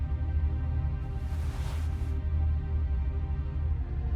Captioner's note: sheets rustle